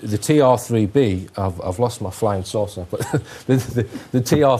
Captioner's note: laughing